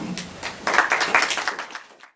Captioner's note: applause